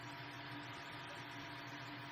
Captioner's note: 3D printing whirring